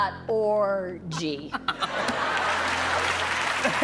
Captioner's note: laughs